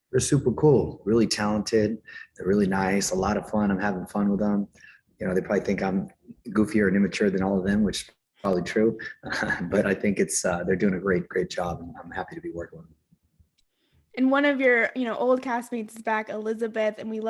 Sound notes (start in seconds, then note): 8.4 chuckles